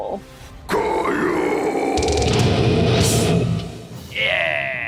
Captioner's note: screaming